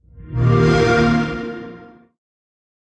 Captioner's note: xbox sound